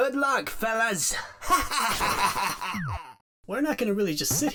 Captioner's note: laughs maniacally